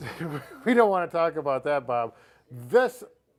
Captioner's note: laughing